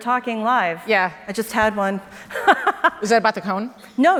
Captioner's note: laughs